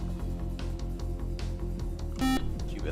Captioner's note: beep